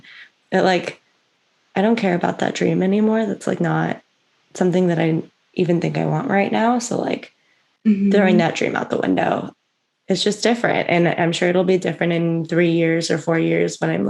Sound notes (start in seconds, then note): 7.8 mhmm